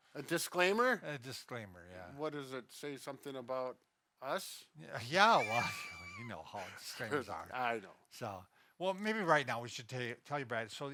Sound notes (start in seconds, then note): 5.3 laughs